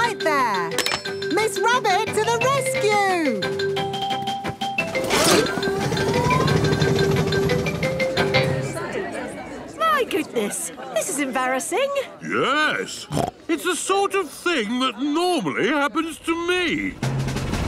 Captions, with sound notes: - I'll be right there. Miss Rabbit to the Rescue! (all murmuring) - My goodness, this is embarrassing. - Yes! (snorts) It's the sort of thing that normally happens to me.